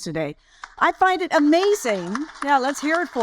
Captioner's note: audience applaud